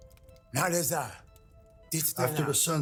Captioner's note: speaking Cherokee language